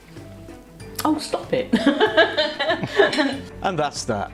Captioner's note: laughs